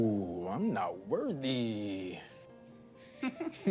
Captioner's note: chuckles